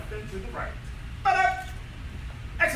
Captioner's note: enthusiastic shouting